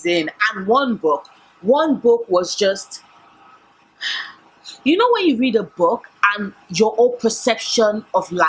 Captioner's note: sigh